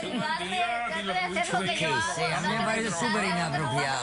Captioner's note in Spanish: Hablan al unísono